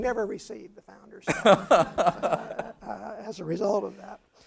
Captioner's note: laugh